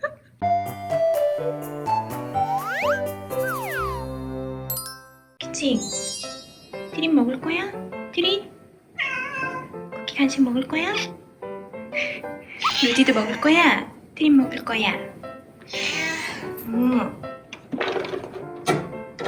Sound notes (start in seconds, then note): 8.9 meow